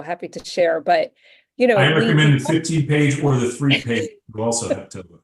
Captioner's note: laughs